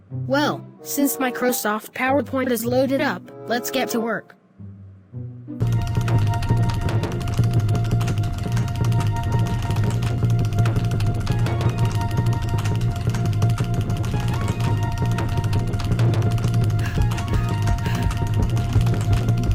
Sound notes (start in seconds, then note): 16.6 rapid breathing